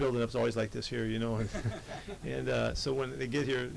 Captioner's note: reporters laugh